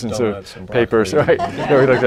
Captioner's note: laughter